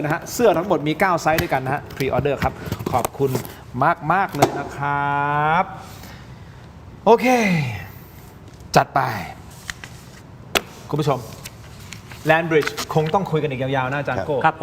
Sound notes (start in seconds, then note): 7.9 sigh